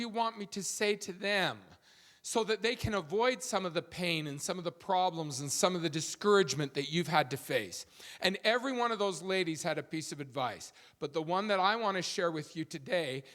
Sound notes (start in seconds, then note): none